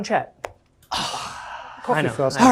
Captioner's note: sigh